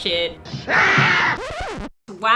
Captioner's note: record Scratch; screams